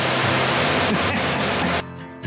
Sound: laughs

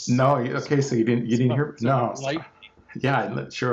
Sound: murmurs

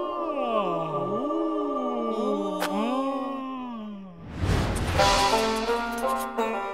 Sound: "ooh"ing and "ah"ing

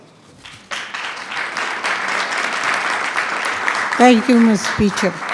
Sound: attendees clapping

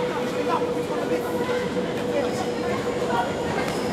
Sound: train approaching; julie and axel shouting

